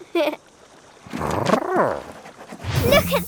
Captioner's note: laughing; Big Lizard trilling